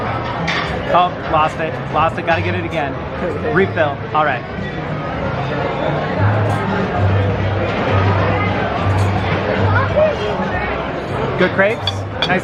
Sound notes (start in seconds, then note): 7.4 indistinct background chatter